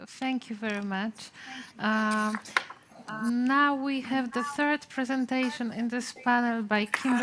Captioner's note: sound distortion, words of the speaker echoing